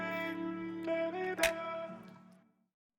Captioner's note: music recedes, computer mouse clicks